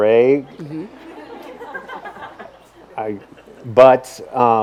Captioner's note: audience laughs